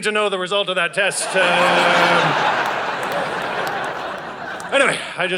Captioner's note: audience laughing